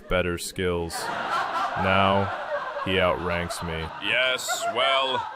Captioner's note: audience laughter, applause